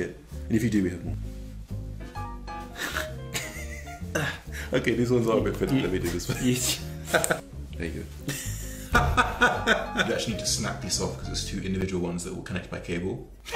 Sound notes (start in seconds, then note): 2.7 giggling; 8.3 laughing